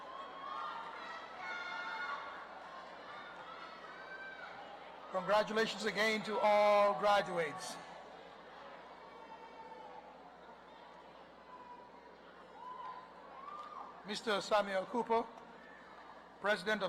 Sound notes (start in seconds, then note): 5.4 applause; 12.2 cheers and Applause